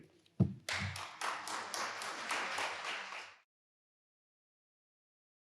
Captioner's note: audience applauding